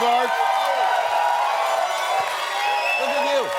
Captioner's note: cheering